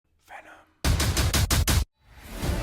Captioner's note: whispered